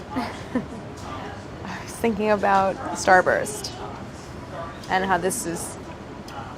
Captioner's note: laughs